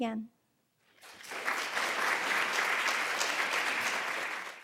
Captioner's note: applause